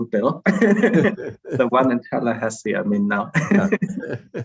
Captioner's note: chuckles